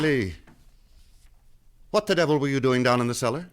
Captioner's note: door opens; footsteps depart